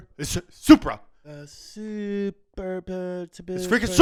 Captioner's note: mummers